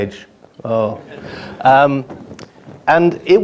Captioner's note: laughing